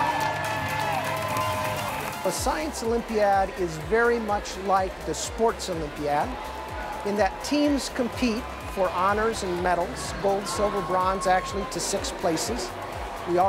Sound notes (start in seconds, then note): 0.0 cheering